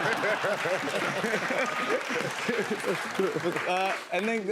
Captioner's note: laughter; applause